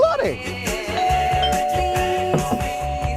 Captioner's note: doorbell rings